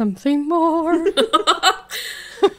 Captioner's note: laughing